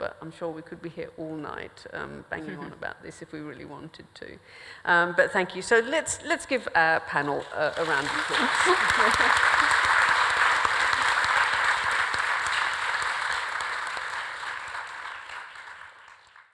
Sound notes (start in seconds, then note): 7.5 audience applauds